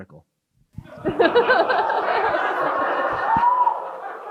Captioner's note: crowd chuckles